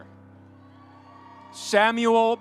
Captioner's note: audience cheering